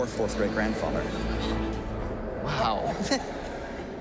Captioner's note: gasping